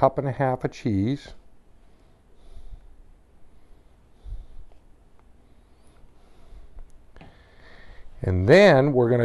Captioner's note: silence